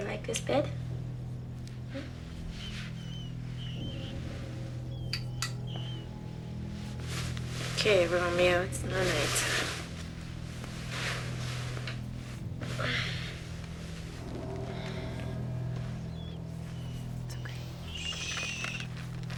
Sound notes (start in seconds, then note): 2.5 mouse squeaking; 10.9 soft suspenseful music; 15.9 mouse squeaking